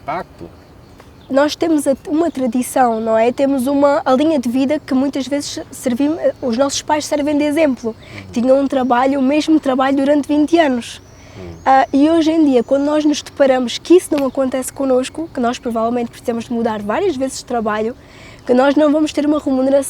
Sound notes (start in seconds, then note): 1.3 speaking in Portuguese